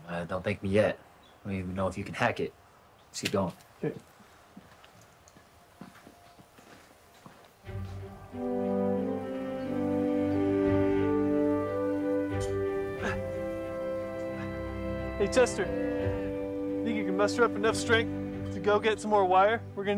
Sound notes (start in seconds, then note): 7.7 bright inspiring music; 12.9 Thomas grunting